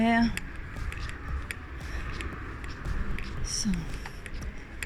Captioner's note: traffic in the distance